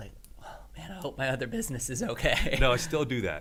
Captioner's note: laughs